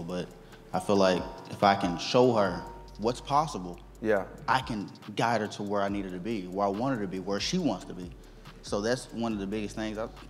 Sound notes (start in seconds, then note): none